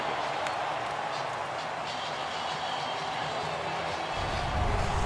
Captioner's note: cheering